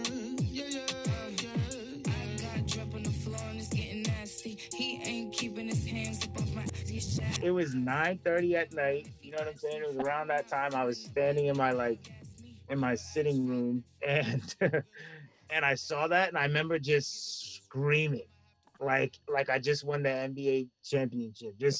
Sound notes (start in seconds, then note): 6.4 reversed speech